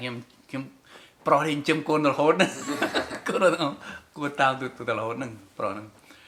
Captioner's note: laughs